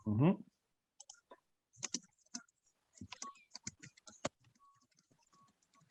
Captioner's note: keyboard keys clatter